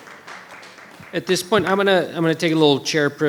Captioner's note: audience applauding